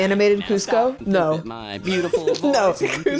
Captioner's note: luaghs